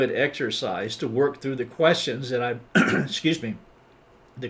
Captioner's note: clears throat